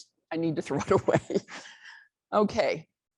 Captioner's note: laughs